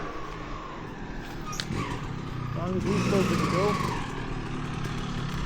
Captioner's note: engine revving